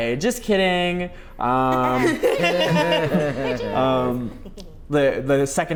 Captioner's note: laugh